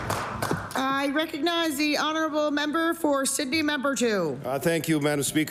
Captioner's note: applause